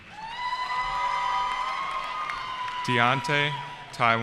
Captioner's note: cheering